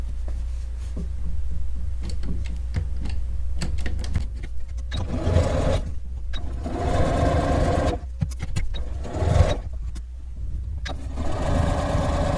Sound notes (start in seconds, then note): 6.3 sewing machine stitching